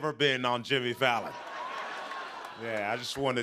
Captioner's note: laughter